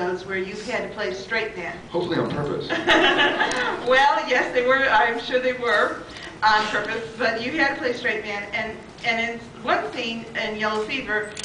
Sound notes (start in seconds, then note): 2.7 laughing